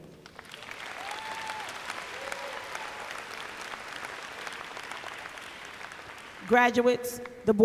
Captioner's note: applause